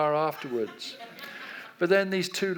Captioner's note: audience laughs